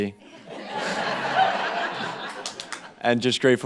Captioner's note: group laughing